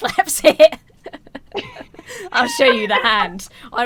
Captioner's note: both laugh